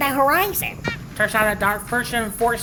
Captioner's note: squeak